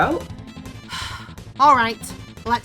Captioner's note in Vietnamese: Thở dài